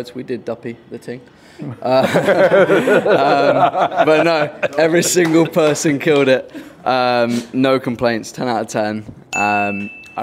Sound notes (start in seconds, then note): 1.9 crowd laughs